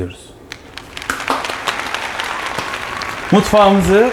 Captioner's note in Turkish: Alkış